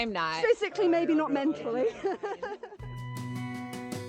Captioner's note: laughter